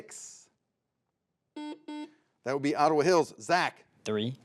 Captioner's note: buzzer beeps